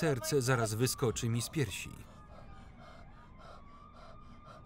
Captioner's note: panting